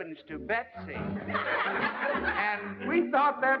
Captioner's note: laughter